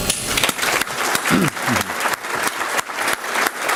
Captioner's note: applause